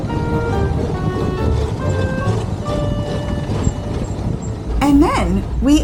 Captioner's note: whooshing sound